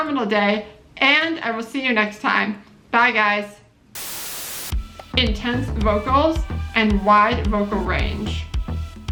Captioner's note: static noise